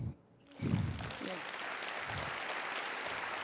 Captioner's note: applause